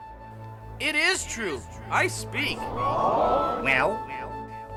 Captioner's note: 观众惊讶声